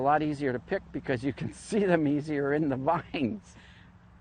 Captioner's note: laughs